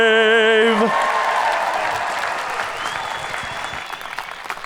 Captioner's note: audience cheering